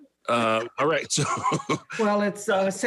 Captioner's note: laughs